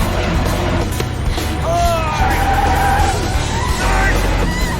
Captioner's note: tires screeching